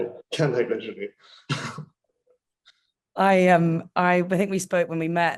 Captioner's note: chuckling; laughing